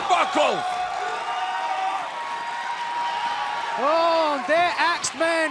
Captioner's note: crowd cheering